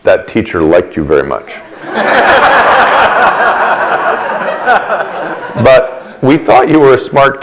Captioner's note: laughter